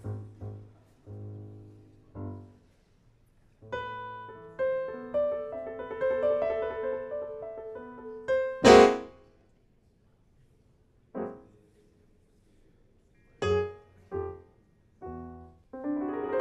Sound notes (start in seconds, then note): 3.6 gentle piano playing; 8.4 piano abruptly stops; 10.0 silence; 11.1 erratic piano playing